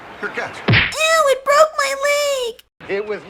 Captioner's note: crash